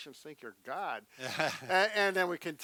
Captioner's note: laughs